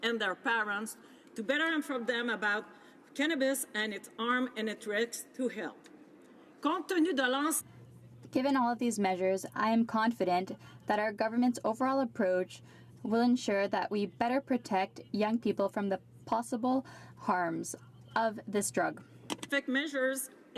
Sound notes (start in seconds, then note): 13.5 speaking French